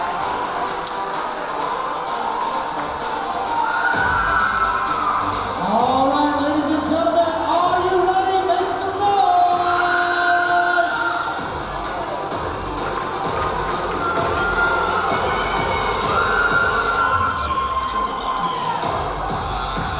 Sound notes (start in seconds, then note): 10.5 cheering; 10.5 yelling; 14.1 intense music